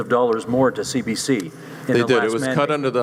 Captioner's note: voiceover